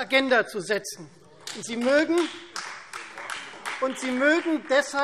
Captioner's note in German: Beifall Freie Demokraten